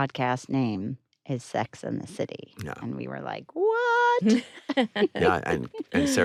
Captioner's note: chuckles